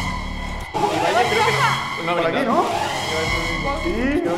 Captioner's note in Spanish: Alarma; Alarma